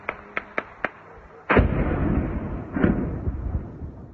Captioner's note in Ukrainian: вибух